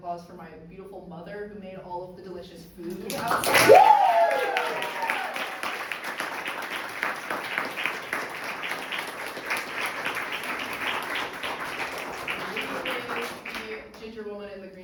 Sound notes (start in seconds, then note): 3.8 audience cheers and applauds